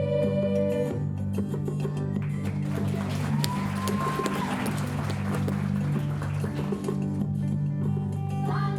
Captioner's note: clapping